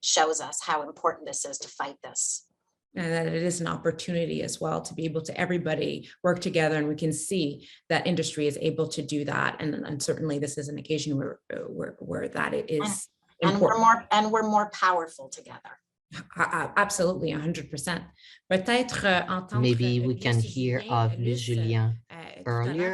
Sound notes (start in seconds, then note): 18.1 speaks French